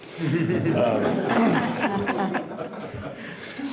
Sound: people laughing

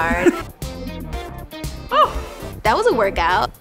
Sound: laughs

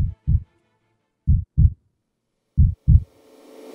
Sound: heart beating

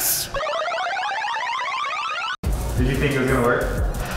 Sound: video game effects

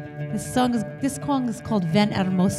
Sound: foreign language

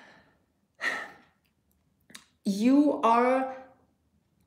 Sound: sighs

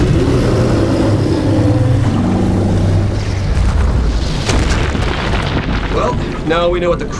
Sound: roars

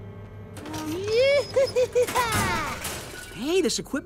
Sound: laughing

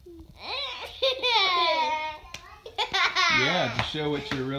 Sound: laughing

